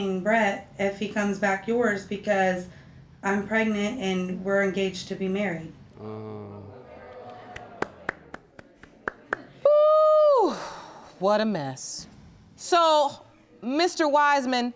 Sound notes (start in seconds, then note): 6.0 groans; 6.0 applauds; 6.5 audience gasps; 10.4 sighs